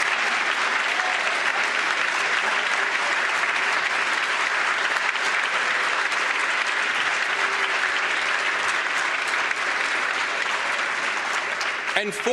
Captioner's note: applause